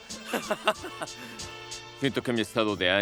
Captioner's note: ríe